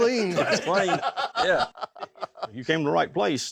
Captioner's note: everyone laughs